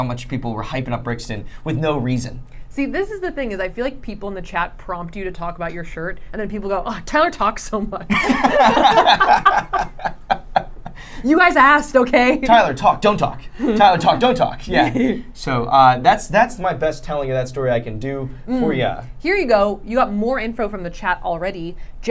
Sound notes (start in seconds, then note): 8.1 laughing